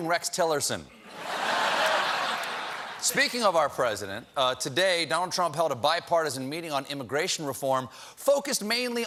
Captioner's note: laughter